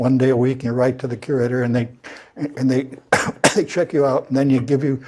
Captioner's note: cough